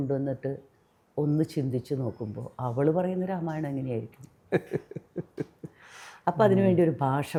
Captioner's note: laughing